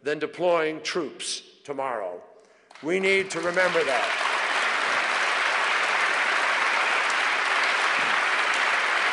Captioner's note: applause